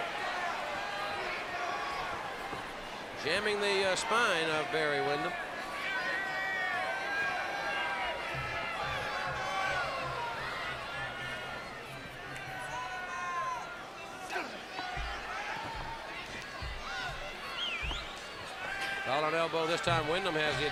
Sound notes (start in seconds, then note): 6.2 crowd chatter